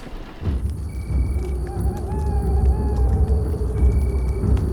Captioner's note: distant owl hooting